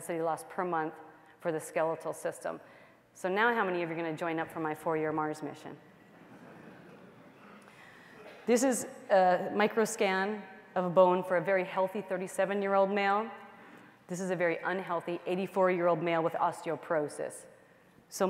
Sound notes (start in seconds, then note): 6.1 laughter